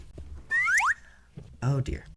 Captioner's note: slide whistle sound effect as video disappears